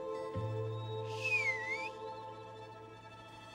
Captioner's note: whistles